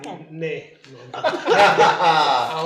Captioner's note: laughing